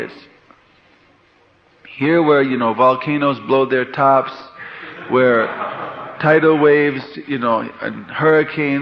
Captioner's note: laughter